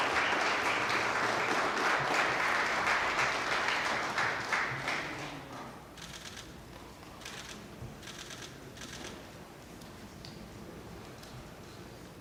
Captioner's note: applause